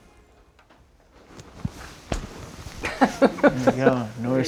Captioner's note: chuckles; sniffles